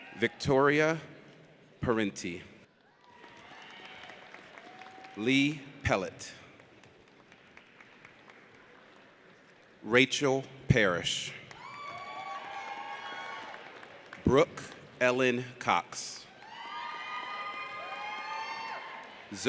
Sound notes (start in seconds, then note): 3.0 audience cheers; 6.5 audience applauds; 11.5 audience cheers; 16.3 audience cheers